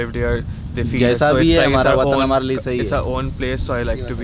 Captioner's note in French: Langue locale